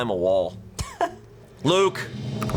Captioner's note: crew member chuckles; tense music building